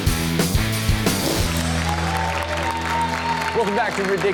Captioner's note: upbeat music; audience cheering